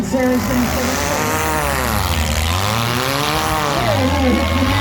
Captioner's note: engines rev